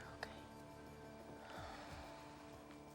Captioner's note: sighs